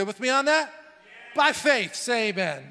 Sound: crowd

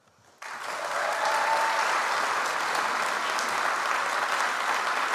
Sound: audience applauds

